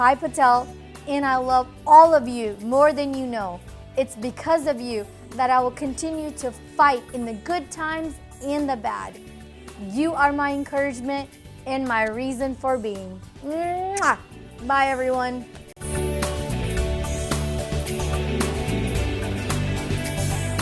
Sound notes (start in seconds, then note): 13.4 kiss